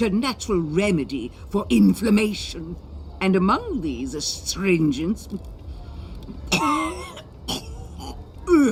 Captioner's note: coughs